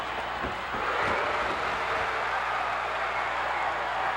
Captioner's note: cheers